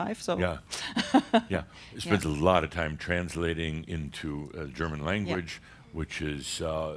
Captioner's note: she chuckles